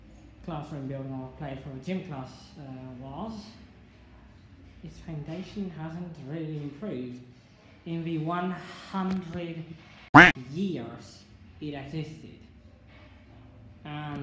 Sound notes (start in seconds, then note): 10.1 quack